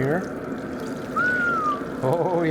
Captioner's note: whistles